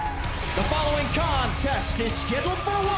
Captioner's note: bell ringing